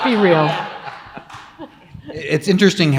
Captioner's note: audience laughs